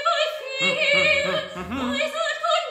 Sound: humming melodically

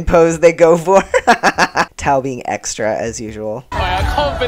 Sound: laughter

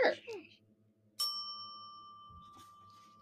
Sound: bell dings

